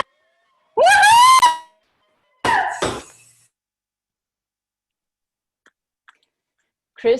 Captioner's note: cheering